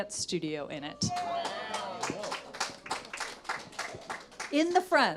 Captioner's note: audience applauds